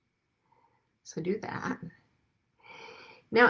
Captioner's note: exhales deeply